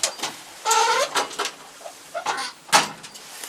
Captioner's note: doors clunk themselves shut slowly